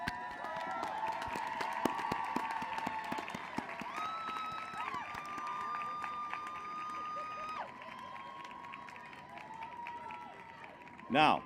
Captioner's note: applause